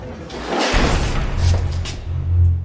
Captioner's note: mechanical noise of door slamming open